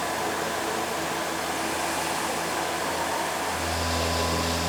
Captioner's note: CNC machine rumbling